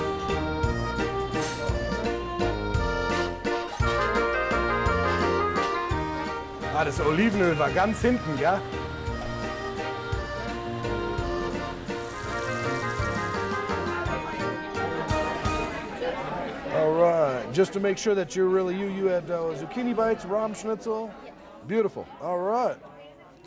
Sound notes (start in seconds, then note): 6.1 speaking German; 10.3 German style polka music ends